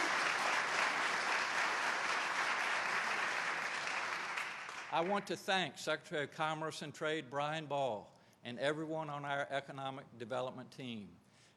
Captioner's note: applause